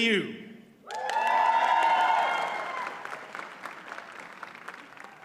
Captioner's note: audience cheers and applauds